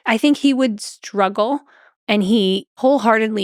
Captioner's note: none